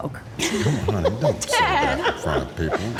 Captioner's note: people laughing